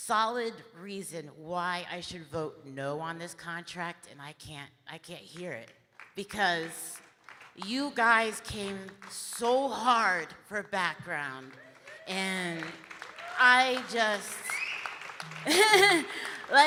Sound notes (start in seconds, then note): 15.2 chuckles; 15.5 audience applauding